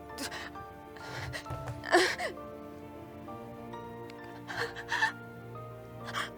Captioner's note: sobs